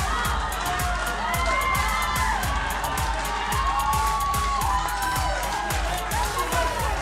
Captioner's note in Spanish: Gritos